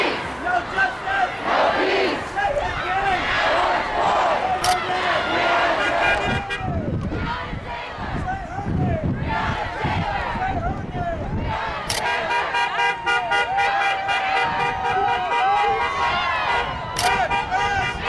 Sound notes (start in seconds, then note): 0.0 crowd; 1.4 crowd; 6.7 car horns blaring; 7.1 crowd; 9.1 crowd; 12.3 car horns blaring